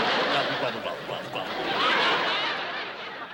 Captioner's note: laughter